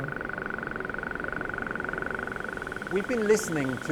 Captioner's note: clicking repeating sounds